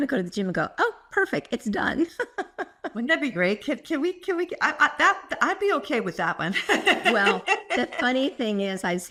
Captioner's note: laugh